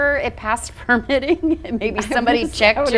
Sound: laughs

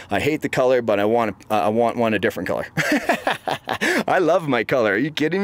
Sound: laughs

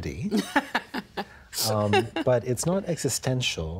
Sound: laughing

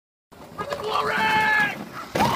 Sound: yelling

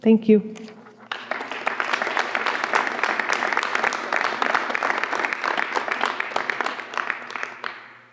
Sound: applause

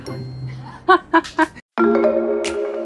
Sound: laughs; groovy mid tempo music

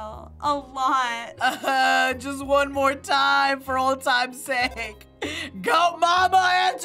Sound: moaning

